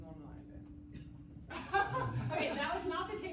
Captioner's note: laughter